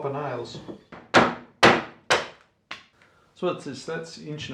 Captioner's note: hammer banging